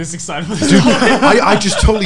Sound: laughing loudly

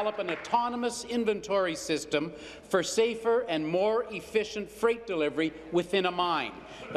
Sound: applause

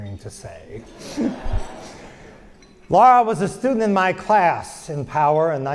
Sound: laugh

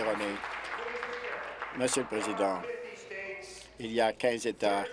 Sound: applause

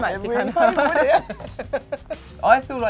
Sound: both laugh

